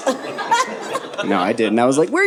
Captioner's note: audience laughing